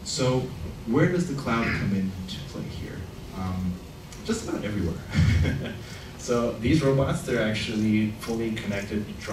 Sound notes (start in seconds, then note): 5.1 laughs